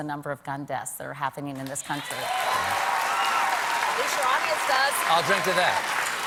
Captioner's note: cheers and applause